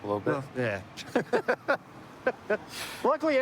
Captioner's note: laughter